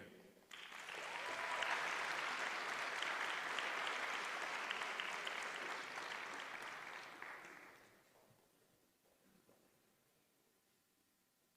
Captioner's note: applause